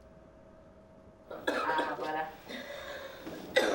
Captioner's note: coughs